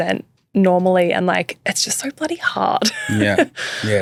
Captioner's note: laughs